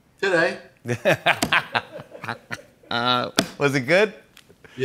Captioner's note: both laugh